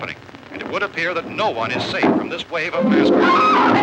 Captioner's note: Barbara Screams